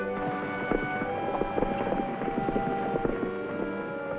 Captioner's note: horse galloping